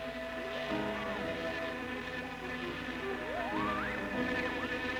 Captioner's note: siren blaring